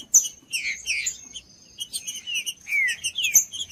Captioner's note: trinca ferro cantando